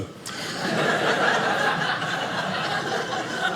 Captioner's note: audience laughing